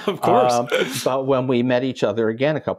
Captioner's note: chuckle